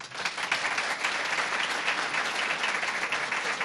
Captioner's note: applause